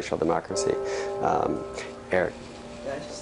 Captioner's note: bell rings